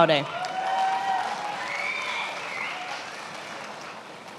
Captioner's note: attendees applauding